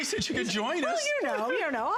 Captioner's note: laughter